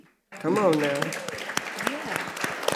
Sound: audience applauds

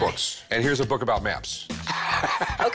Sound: laughs

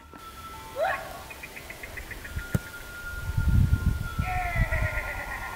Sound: shepherd making wooping and clicking noises

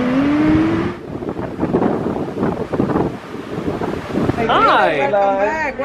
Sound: wind blustering

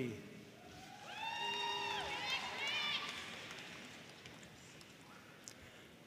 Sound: audience cheering and applauding

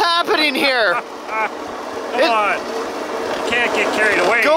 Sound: man laughs

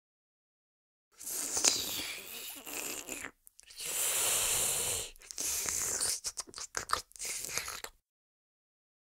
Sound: sound of creature

